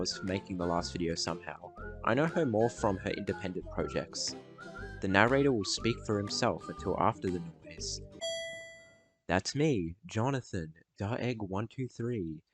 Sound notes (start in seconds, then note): 8.2 start noise